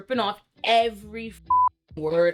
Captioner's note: beep